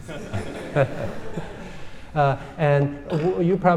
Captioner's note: audience laughs